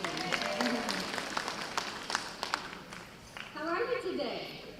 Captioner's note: audience applause